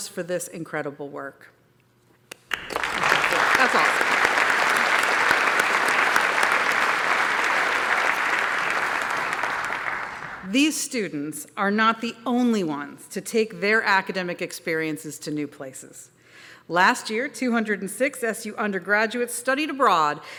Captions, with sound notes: for this incredible work. [APPLAUSE] These students are not the only ones to take their academic experiences to new places. Last year, 206 SU undergraduates studied abroad